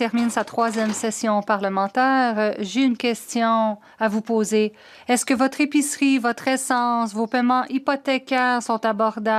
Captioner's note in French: voix de l'interprète